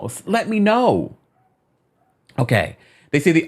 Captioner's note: dog barking